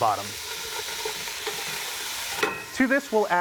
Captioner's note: sizzling